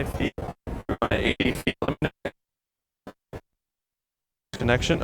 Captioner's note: voice breaking